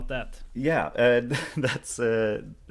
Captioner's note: chuckle